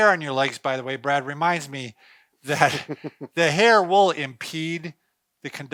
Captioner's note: laughing